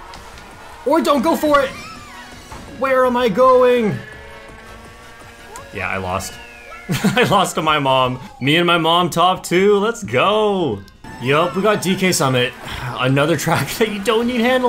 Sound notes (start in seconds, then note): 6.4 laughs